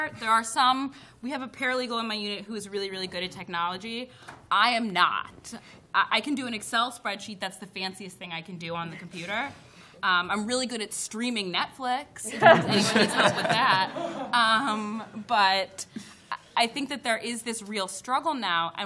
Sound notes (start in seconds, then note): 12.3 laughter